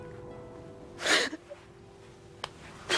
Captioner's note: crying